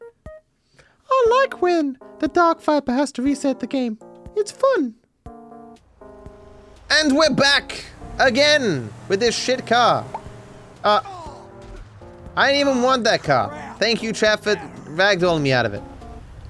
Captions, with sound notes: [Imitating chat, high pitched voice] “I like when, the DarkViper has to reset the game. It’s fun”. And we're back Again with this sh*t car. I didn’t even want that car. Thank you chat for ragdolling me out of it.